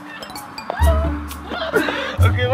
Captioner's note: both die laughing